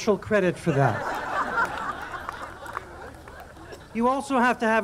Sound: audience laughing

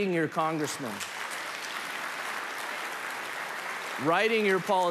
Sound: applause

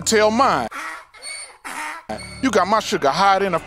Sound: donkey neighs

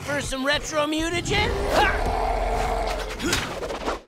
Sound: growling; grunting

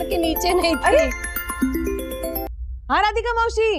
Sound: phone ringing

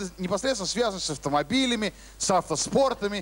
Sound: none

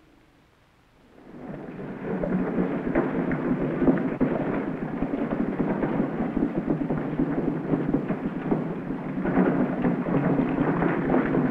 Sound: wagon wheels rumbling

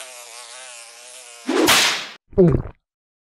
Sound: fly buzzing; whip noise, gulping sound

